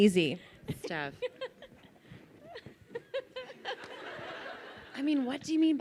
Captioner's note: laughs